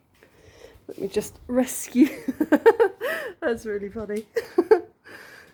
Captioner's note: laughing